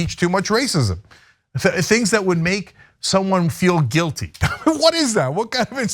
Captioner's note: laugh